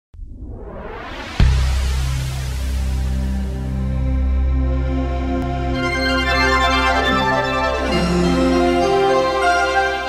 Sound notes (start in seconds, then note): 0.1 wind whooshing; 1.4 upbeat music